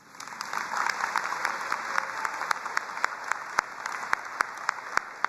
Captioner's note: both applauding